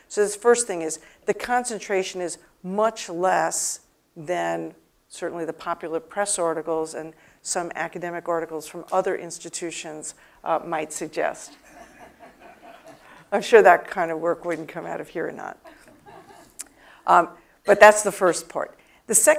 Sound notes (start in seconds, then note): 11.5 laugh; 15.6 laugh